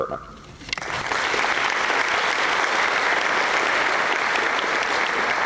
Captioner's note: applause